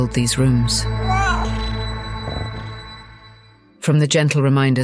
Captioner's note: cat meows, purrs